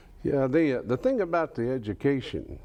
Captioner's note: none